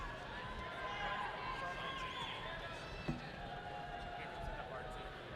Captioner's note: people shouting distantly